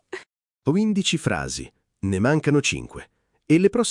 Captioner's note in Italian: Haha